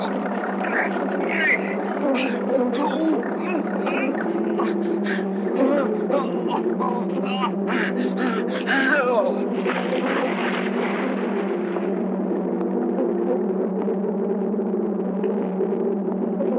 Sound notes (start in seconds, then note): 9.4 water splashing